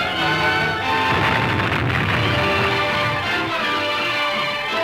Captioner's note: explosion booms